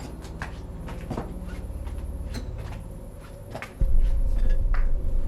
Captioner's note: footsteps tapping